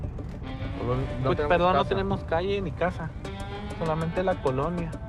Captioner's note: speaking spanish